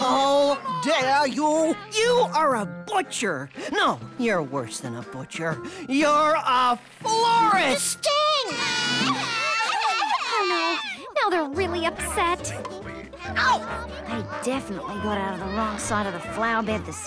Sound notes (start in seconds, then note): 8.4 crying